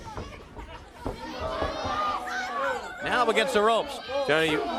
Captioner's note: crowd chatter